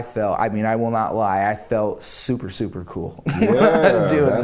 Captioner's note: laughter